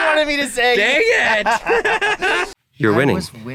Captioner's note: both laughing